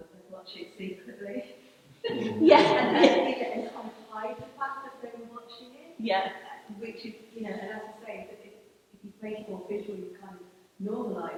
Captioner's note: laughter